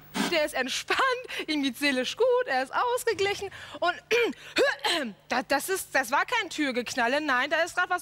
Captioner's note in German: hust